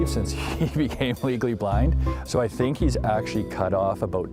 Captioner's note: laugh